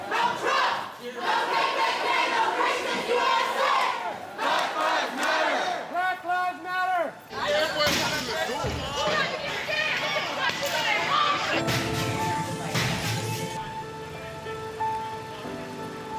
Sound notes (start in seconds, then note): 8.0 glass shattering; 11.6 dramatic music